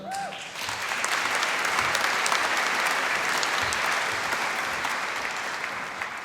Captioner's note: applause